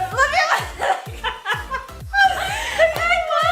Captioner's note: laughs